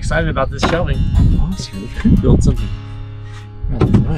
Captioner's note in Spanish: murmurando